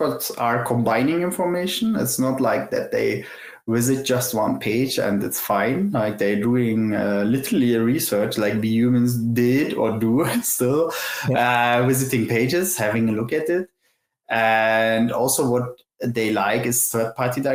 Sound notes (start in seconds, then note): 10.7 laughs